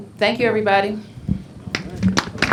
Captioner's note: applause